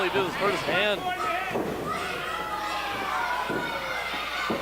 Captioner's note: crowd yells